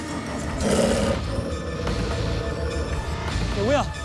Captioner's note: wolf growls; suspenseful music